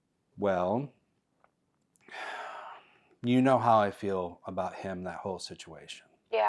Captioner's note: sighs